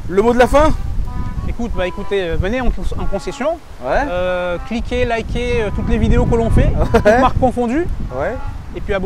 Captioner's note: laughs